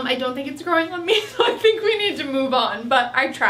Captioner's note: laughs